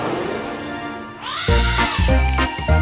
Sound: Elly trumpets

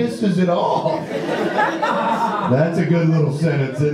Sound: audience laughs

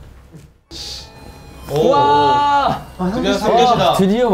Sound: ding dong, ding dong

